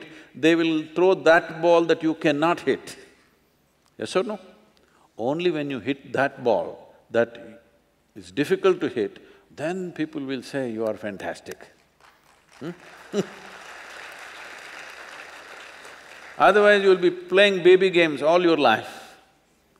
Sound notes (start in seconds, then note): 11.9 applause